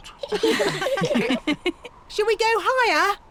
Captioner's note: all laughing